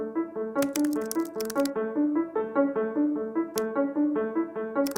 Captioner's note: keyboard keys clacking; lively music